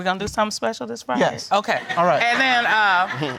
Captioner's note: audience laughs